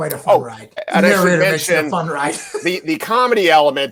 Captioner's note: laughs